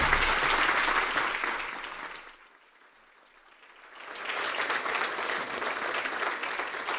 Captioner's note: applause